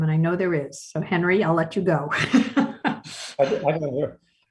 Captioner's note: laughs